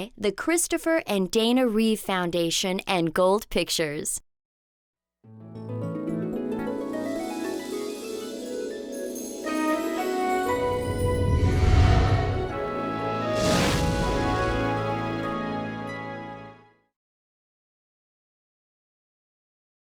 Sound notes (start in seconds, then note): 6.1 whimsical music; 10.6 logo swooshing